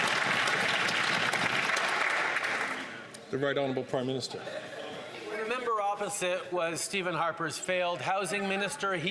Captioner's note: some Applause